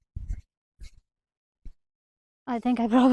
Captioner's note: confused